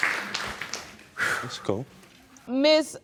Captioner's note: exhales